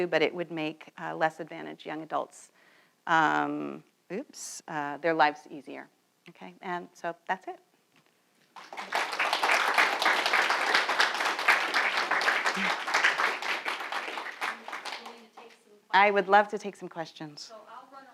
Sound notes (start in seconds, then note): 8.5 applause